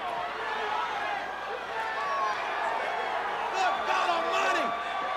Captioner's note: audience cheering